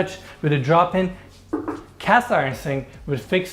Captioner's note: knocking